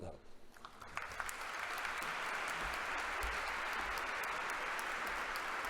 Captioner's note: congregation applauding